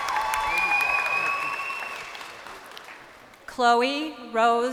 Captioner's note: crowd cheering